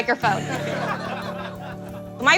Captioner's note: laughing